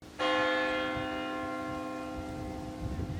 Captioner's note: bell ringing